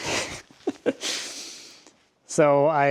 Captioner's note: laughing